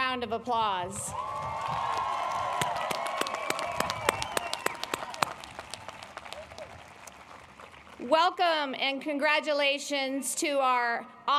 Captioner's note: applause